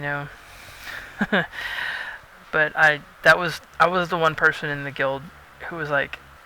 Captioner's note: laughs